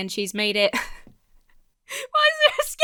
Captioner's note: laughs